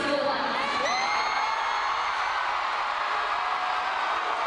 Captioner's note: crowd cheering